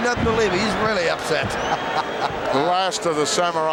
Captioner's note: chuckles